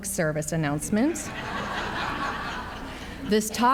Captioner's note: audience laughs